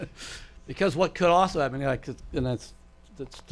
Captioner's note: laughs